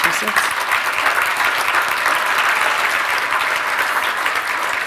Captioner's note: audience clapping